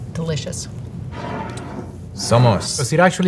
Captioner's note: jar sliding